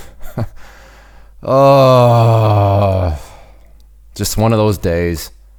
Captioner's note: moaning